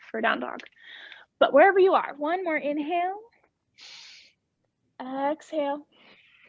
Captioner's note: inhaling